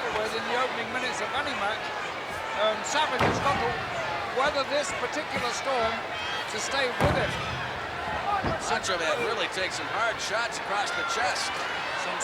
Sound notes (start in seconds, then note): 6.8 blows thudding